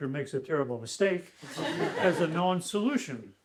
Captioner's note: laughter